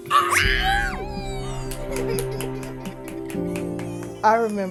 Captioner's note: cheering